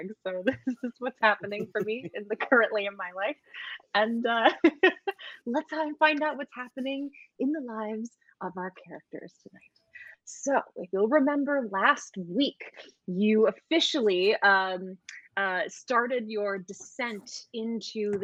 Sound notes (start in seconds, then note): 4.3 laughs